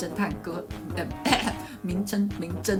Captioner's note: clears throat